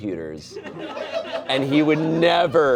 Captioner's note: audience laughing